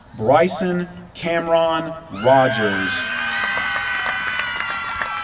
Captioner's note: applause